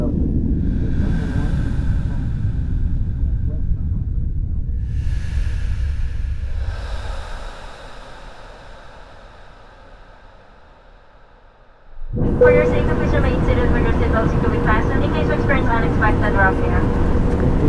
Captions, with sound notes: (airplane announcement) - For your safety, please remain seated with your seatbelt securely fastened in case we experience rough air.